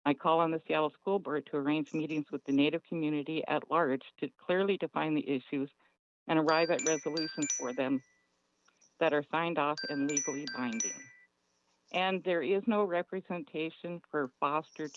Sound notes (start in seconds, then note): 6.4 chime